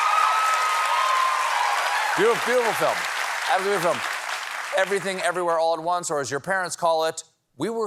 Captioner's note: cheers and applause